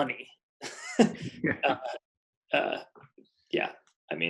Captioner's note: both laughing